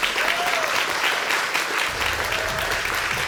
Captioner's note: whooping and applause